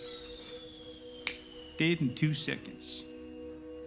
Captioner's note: snaps